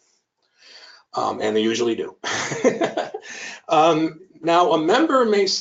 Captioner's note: laughs